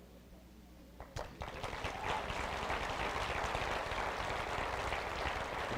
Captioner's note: audience applause